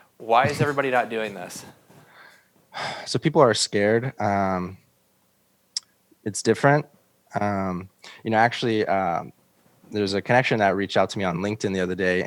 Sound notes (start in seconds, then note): 2.9 sighs